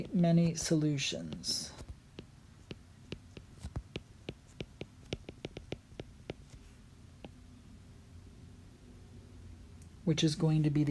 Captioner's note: writing